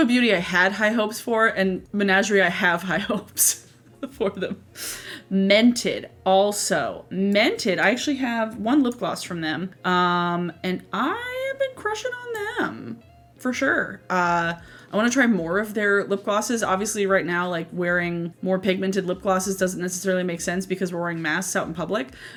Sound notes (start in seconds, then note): 3.9 laughs